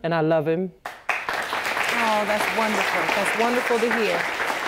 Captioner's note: audience applauding